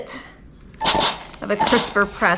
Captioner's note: steam hissing